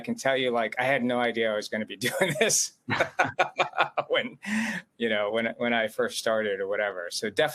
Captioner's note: laughs